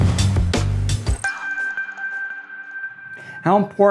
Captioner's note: gentle chiming